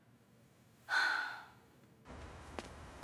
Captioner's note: sigh